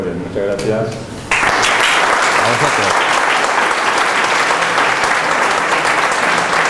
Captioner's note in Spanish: aplausos